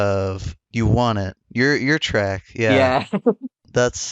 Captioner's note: laughs